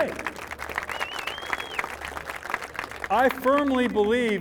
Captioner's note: applause